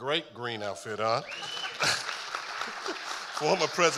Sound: audience applauding

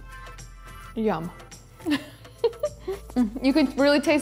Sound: laughs

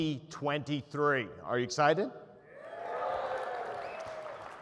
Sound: cheering

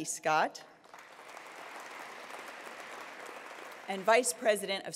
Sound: attendees applauding

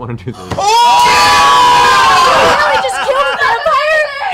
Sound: cheering

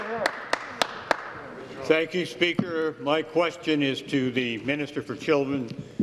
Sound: some Applause

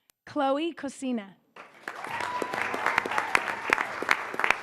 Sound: applause

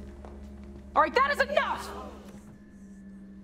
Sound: shouting

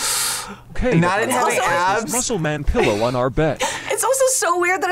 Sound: laughs

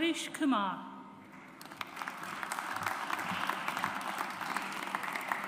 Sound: audience applauds

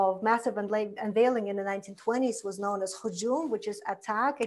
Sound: foreign language

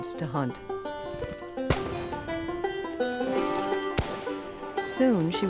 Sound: gunshots

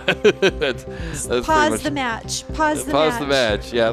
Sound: laughing

